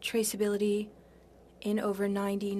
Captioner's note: speaking French